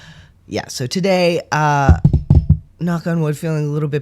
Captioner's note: knocks on desk